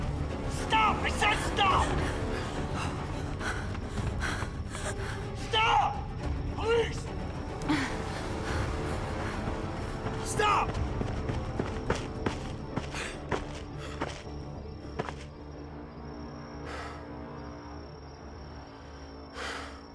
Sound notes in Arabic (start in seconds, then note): 1.8 خطوات تجري، تلهث; 7.3 موسيقى متوترة